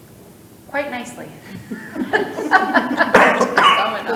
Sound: laughs

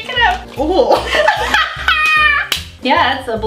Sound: laughs

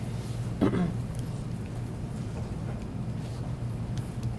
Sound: clears throat

